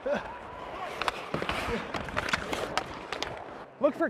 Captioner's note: hockey sticks rattling